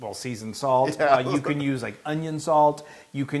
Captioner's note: laugh